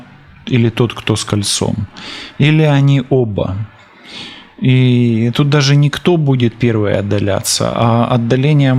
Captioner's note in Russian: фыркает